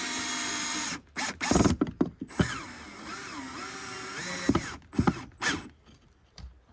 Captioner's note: drill droning